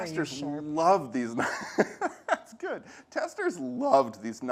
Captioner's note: laughs